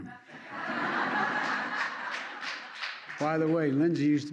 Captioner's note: laughter